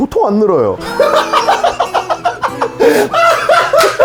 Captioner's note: bone hit